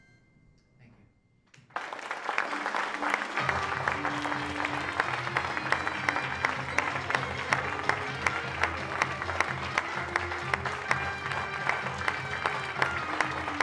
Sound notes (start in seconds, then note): 1.6 applause